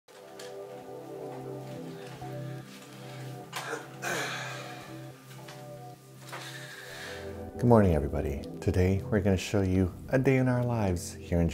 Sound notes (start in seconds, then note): 3.6 clears his throat